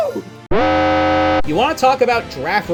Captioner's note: Utsuho spell card alarm